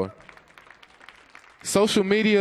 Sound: audience applauds

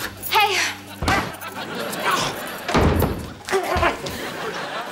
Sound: grunting

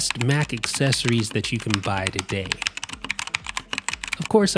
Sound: keys click

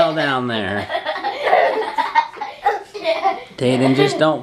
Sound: laughs

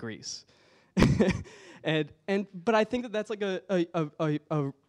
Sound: laughs

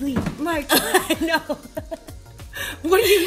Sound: laughter

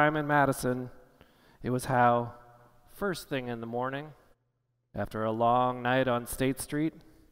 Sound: none

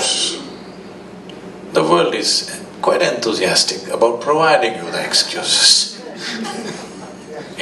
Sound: laughs

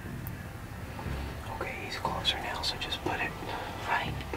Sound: whispering

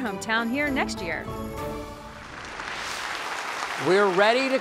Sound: applause

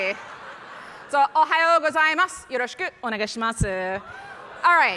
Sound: speaking foreign language

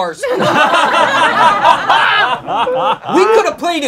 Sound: laughing

